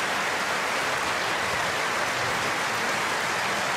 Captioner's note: cheers and applause